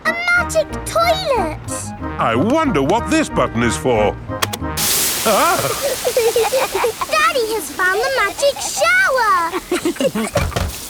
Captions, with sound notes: A magic toilet! I wonder what this button is for. (LAUGHING) Daddy has found the magic shower!